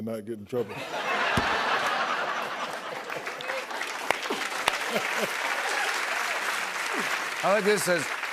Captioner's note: laughter and applause